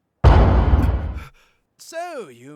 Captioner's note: Ryu gasps